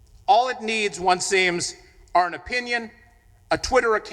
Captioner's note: none